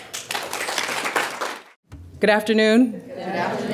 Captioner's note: applause